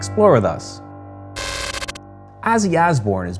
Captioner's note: static